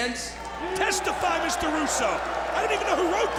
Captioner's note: audience shouting